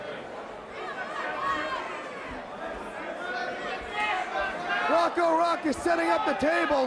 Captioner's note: crowd chatter